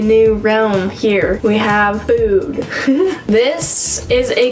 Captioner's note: giggles